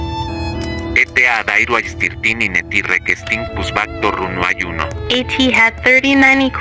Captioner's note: speaking Spanish